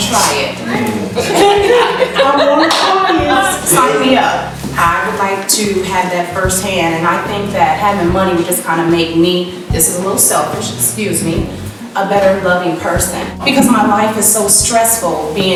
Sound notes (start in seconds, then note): 1.1 laughing